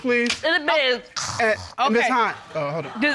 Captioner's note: imitates snoring